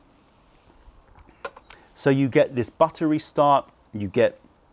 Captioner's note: sips tea